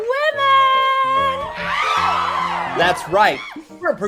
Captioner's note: audience cheering